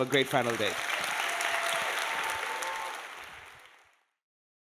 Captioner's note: audience applauding